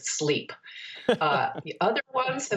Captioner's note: laughter